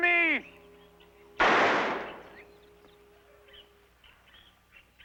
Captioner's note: gun firing